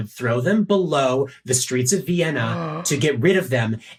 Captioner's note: gasps